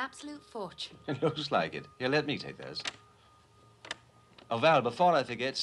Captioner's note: chuckling